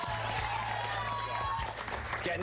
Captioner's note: applause